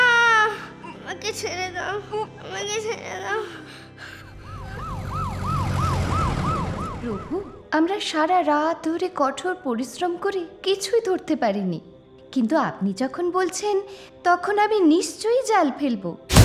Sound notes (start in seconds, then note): 2.8 baby Crying; 4.3 ambulance Siren